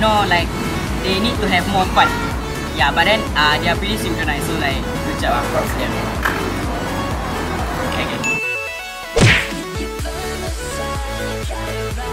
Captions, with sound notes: They need to have more fun They are really synchronised Good job! Props to them! [Claps hand]